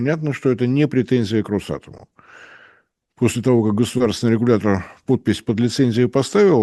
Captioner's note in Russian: тяжело вздыхает